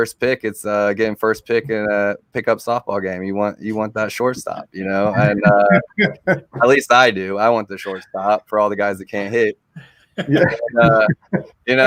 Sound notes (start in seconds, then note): 4.5 laughing; 10.1 laughing